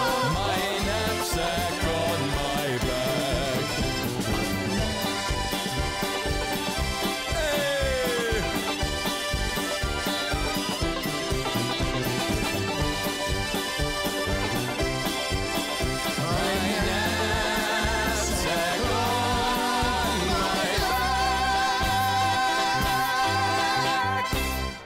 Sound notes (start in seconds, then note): 4.2 polka band music; 7.2 man cheering; 9.0 polka band music